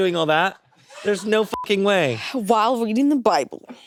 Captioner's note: beeps